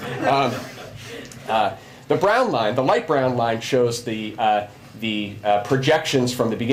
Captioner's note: laughter